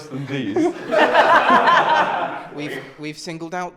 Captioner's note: laughter